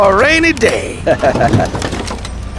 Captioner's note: laughing